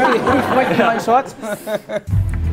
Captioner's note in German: Gelächter